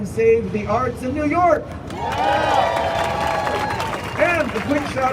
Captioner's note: crowd cheering